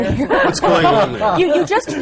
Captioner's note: laughter